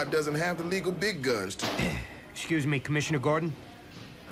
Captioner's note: clears throat